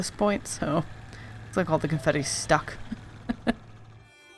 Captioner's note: laughs